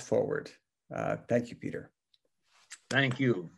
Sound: claps

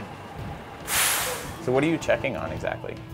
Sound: truck hissing

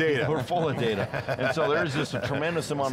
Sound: laughs

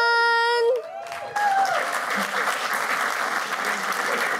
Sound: cheers and applause

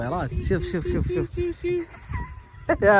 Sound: making bird sounds

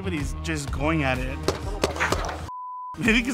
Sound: shots firing

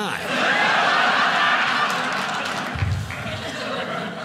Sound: audience laughing

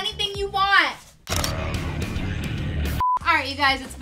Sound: camera clicks

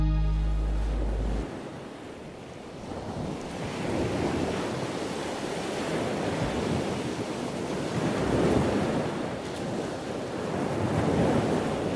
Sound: ocean waves crashing

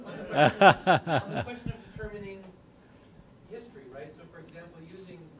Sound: laughter

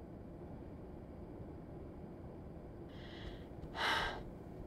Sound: sigh of relief

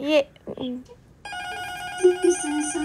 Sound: door bell rings

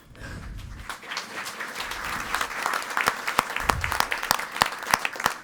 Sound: audience applauding

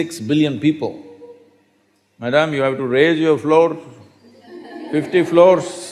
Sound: laughter

